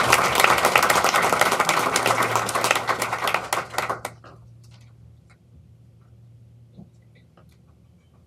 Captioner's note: applause